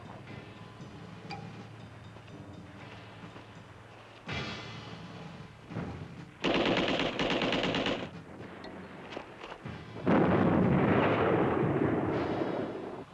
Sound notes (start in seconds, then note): 0.0 suspenseful music continues; 6.4 rapid gunfire; 10.0 explosion